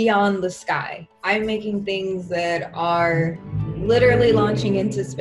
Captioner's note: engine roaring